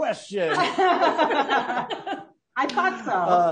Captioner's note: all laughing loudly